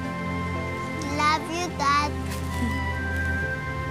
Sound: Monica chuckles

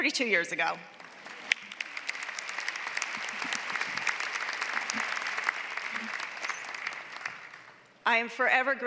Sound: applause

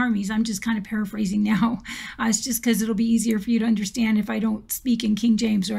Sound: laughs

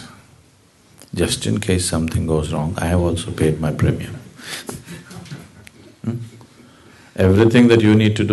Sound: laughs

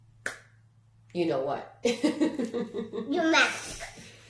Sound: giggling

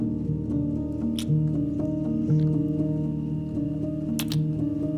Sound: soft music; kissing

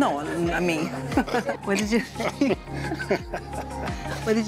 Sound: laughs

